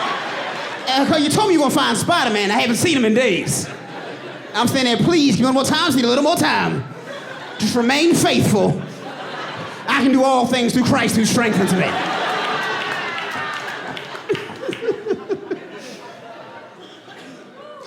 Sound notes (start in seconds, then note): 9.2 audience laughing; 13.5 laughs